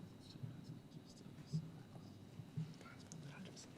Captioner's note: whispering